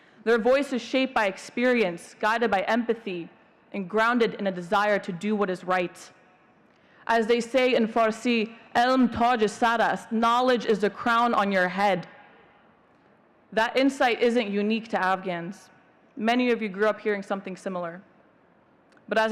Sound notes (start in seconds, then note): 8.9 speak in Farsi